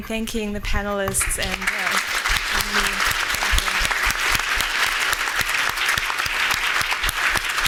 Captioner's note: applauding